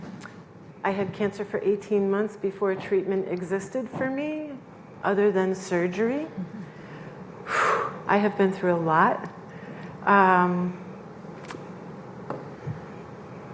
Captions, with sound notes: I had cancer for 18 months before a treatment existed for me other than surgery. (sighs) I have been through a lot.